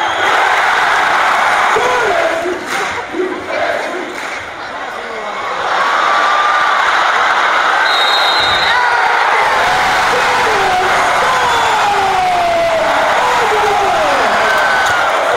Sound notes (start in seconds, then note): 0.0 indistinct crowd chatter; 0.3 crowd roars; 2.4 crowd chanting; 5.1 crowd anticipation grows; 7.7 arena erupts; 7.8 referee whistle; 10.4 deafening cheering continues